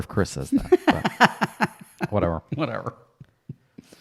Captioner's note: laughs